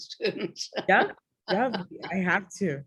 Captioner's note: laughs